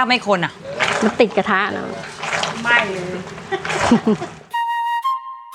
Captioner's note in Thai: เสียงหัวเรา